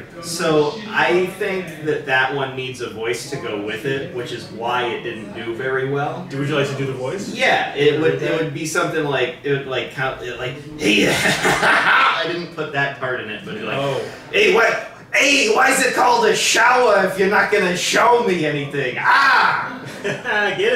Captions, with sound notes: - So I think that that one needs a voice to go with it, which is why it didn't do very well. - Would you like to do the voice? - Yeah, it would be something like, "Hey--" (evil laugh) I didn't put that part in it but it like, "Ay, why's it called a shower if ya not gonna "show me anything? "Ahh"!